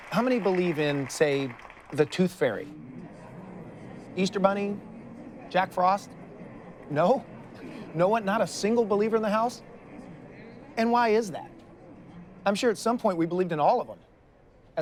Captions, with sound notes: How many believe in, say, the Tooth Fairy? (audience murmurs) Easter Bunny? Jack Frost? No? No one? Not a single believer in the house? And why is that? I'm sure at some point we believed in all of 'em.